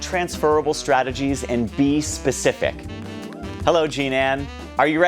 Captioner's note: light cheering